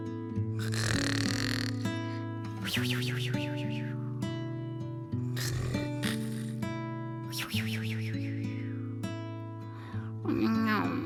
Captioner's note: snore